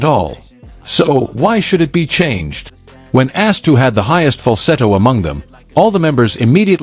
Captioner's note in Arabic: فالسيتو